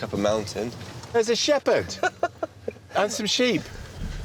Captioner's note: laughs